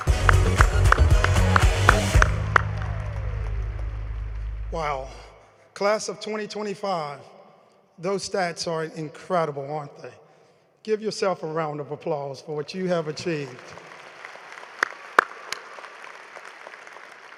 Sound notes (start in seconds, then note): 2.3 applause